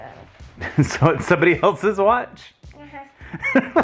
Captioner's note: laughs